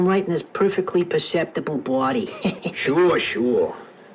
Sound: laughs

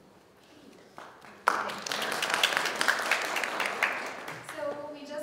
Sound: audience applauding

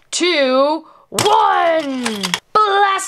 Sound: toy clicks

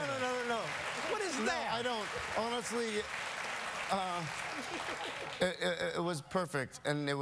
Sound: laughter

